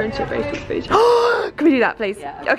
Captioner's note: gasps